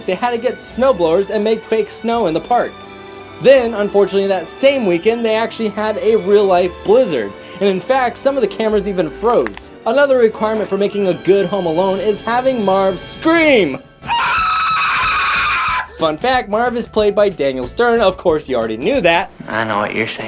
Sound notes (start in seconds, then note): 14.0 Marv screams